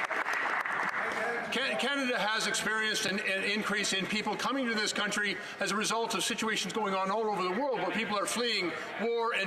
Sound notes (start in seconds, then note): 2.5 some Applause